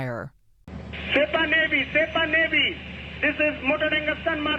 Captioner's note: through translator